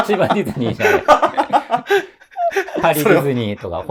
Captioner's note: laughing